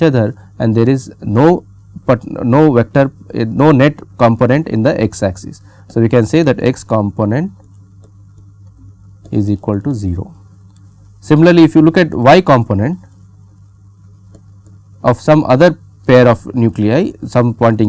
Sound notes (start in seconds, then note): 2.1 pat